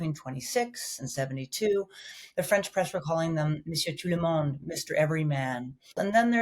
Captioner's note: speaking in foreign language